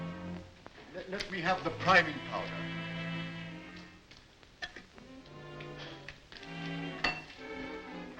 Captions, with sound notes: - Let me have the priming powder. (lid pops)